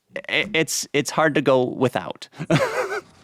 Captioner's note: chuckles